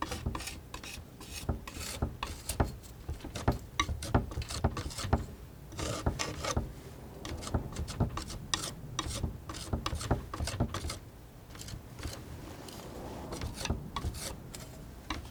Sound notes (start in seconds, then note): 0.1 tapping; 12.1 tapping